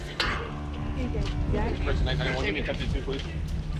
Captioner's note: indistinct chatter